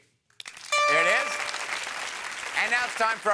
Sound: audience applauding

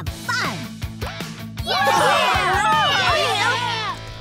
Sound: cheering

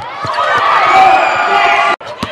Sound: cheering and applause

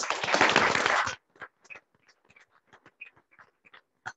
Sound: audience clapping

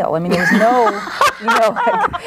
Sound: group laughs

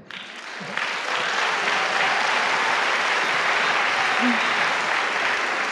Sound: applause

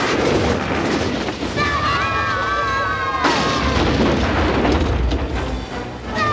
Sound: screaming

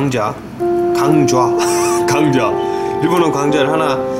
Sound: some school bell sound

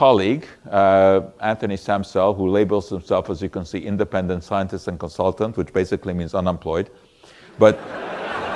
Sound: audience laughter

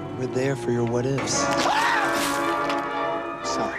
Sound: screaming

